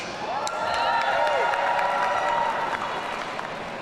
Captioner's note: audience cheering